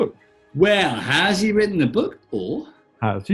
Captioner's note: raps